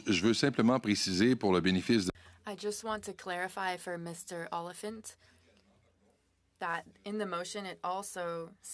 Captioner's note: speaking French